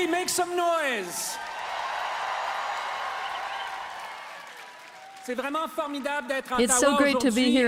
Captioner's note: applause; cheers and Applause